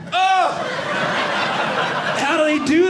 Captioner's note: audience laughing